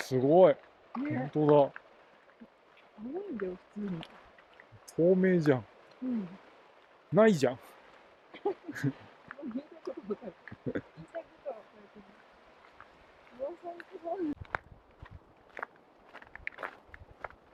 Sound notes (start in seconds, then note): 9.8 laughs